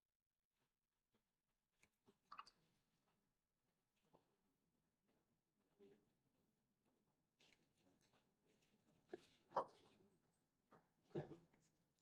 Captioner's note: silence